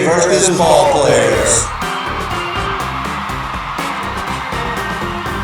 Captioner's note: audience cheering; upbeat music